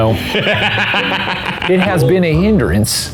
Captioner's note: laughing